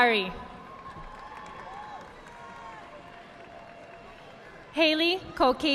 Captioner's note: audience clapping